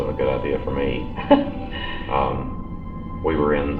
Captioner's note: Gwendolyn laughing